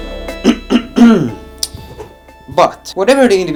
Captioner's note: clears throat